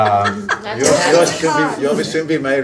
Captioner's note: audience laughing